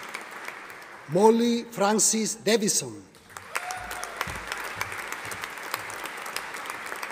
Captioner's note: audience applauding